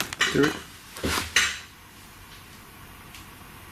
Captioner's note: tapping